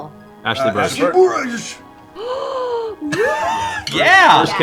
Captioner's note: gasps